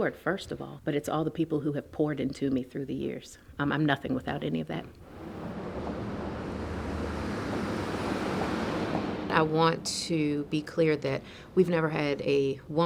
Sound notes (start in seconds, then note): 5.0 car engine revving